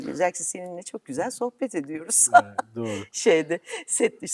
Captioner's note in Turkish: kahkaha